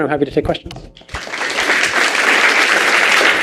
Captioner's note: applause